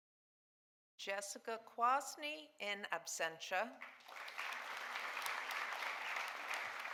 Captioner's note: audience applauding